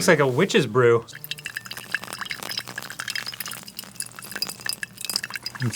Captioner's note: water pour asmr